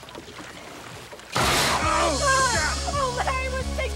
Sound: loud bang

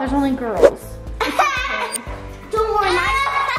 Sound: laughs

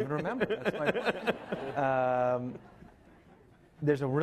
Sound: laughing

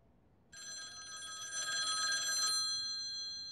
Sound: phone ringing

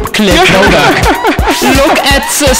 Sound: hilarious laugh

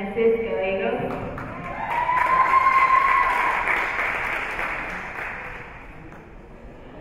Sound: spectators cheering and applauding

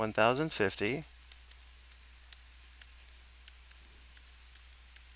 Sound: mouse clicking

